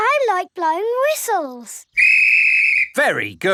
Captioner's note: blows whistle